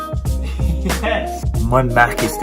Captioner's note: laughs